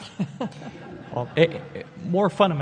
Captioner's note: laughs; audience laughs